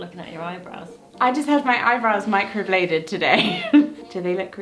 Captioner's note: laughing